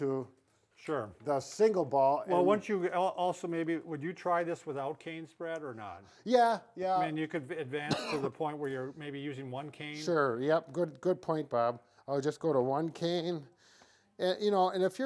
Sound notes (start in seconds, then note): 7.8 coughing